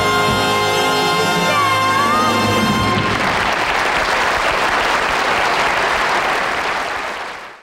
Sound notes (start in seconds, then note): 1.9 audience applauding